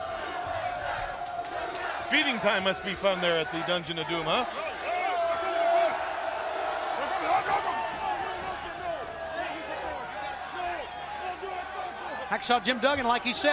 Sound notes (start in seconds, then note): 0.1 crowd chatter; 5.7 crowd chatter